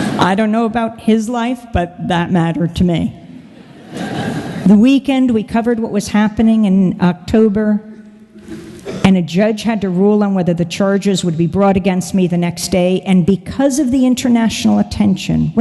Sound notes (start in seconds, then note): 3.5 laughter